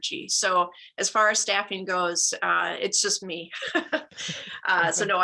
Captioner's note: laughter